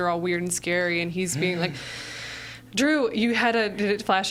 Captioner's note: sighs